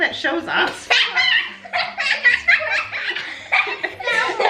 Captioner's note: everyone laughs